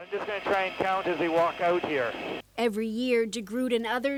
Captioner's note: helicopter radio